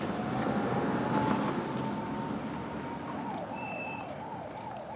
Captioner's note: sirens whirling